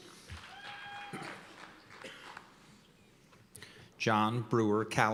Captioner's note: cheers and applause